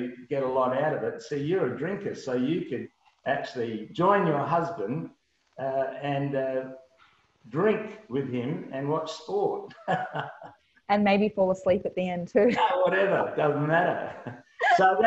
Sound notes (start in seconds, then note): 9.4 laughs; 12.3 laughs